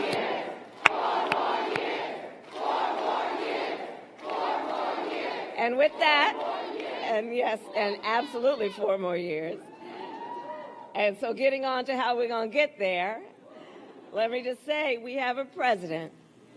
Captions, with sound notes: >>>: Now,. [APPLAUSE] four more years. Four more years. For more years. >>>: With that, absolutely four more years. And so getting